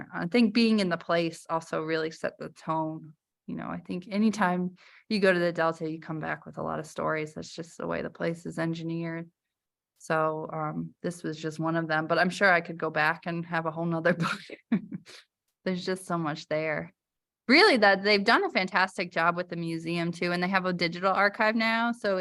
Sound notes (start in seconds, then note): 14.1 laughter